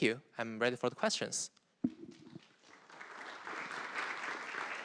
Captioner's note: applause